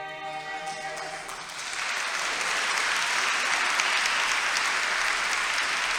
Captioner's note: audience applauds loudly